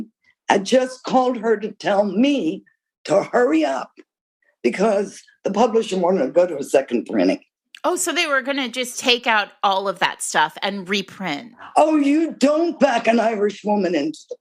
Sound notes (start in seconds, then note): none